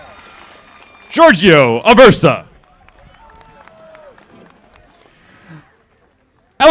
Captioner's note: audience applauding